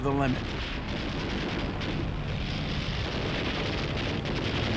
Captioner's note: gunfire and engines roaring